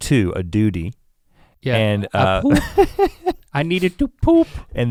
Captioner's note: Rhett chuckles